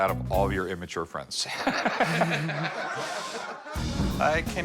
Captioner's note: laughs